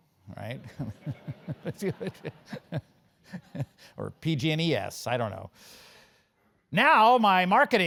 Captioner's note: laugh